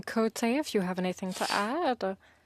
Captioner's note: speaking in French